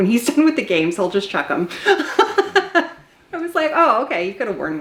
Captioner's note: laughs